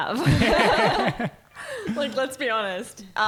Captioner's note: laughing